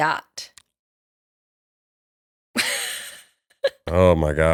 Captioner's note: laughter